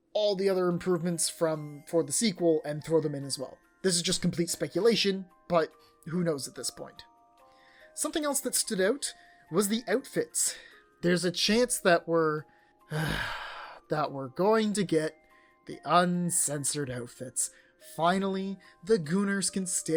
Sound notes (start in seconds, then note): 12.9 sigh